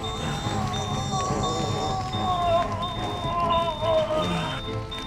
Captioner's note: Mark moaning